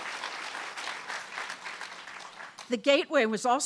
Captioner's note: audience clapping